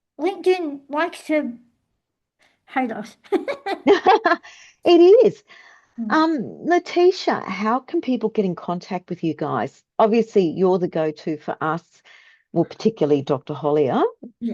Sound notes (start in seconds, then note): 3.3 both laugh